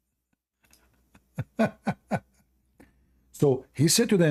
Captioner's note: Ketawa